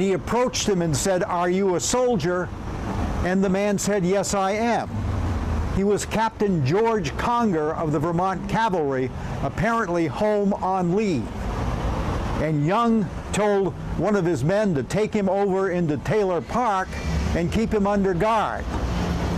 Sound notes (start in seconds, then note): none